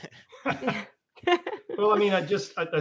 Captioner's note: laughs